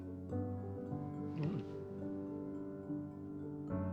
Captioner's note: grunts